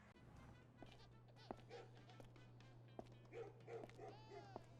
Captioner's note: baby cries in the distance; footsteps pattering; dog barks in the distance; baby continues crying